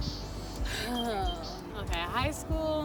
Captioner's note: birds chirping; sighs